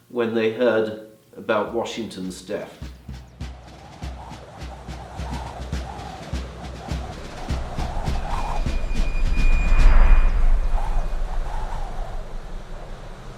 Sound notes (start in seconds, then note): 2.8 military percussion music; 2.9 wind howling